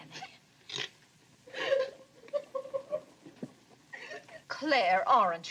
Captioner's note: sobbing